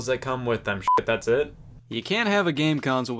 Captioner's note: beep